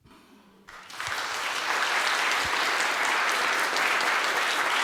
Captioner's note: audience applause